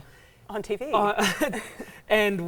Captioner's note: chuckles